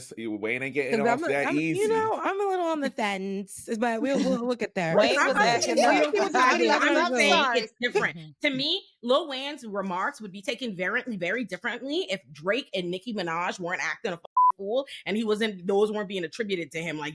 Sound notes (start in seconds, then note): 5.0 laughing; 14.3 beep